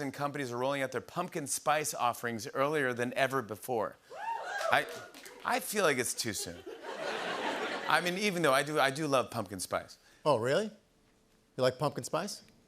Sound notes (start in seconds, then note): 4.1 crowd cheers; 6.3 laughter